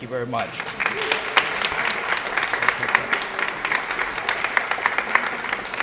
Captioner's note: applause